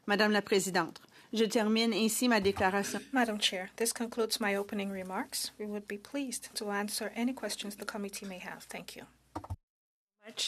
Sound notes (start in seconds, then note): 3.3 speaking in French